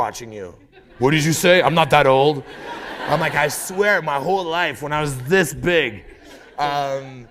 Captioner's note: laughter